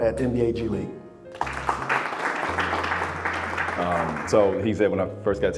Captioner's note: audience applauding